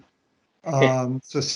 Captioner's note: laugh